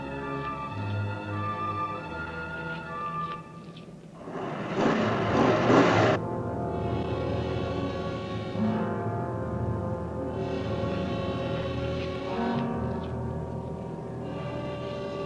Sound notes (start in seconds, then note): 4.2 engine revving; 10.4 tense instrumental music continues